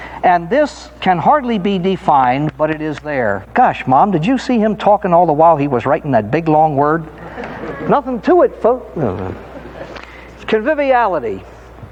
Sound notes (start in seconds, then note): 7.0 audience laughing